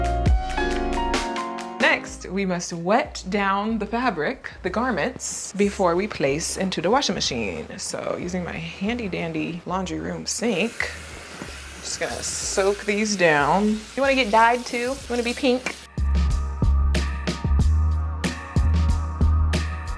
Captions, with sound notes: Next we must wet down the fabric, the garments before we place into the washing machine. So using my handy dandy laundry room sink. (water gushing) I'm just gonna soak these down. - You wanna get dyed too? You wanna be pink? (tranquil ambient music)